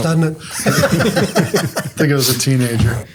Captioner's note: group laughs